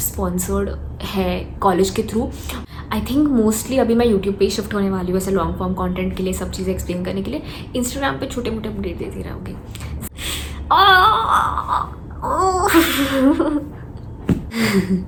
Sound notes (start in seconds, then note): 9.3 chuckles